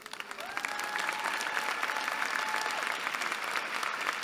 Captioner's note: applause